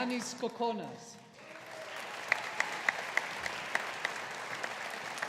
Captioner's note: audience applauding